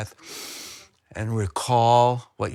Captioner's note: inhaling